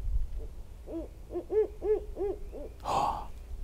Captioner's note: an owl screams